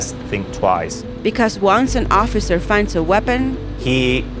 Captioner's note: voiceover